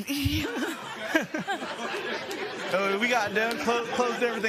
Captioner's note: laughter